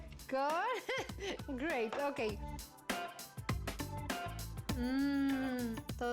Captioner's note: laughs